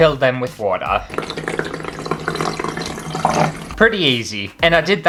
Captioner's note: water Pouring